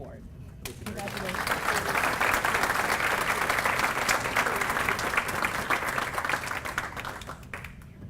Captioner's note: applause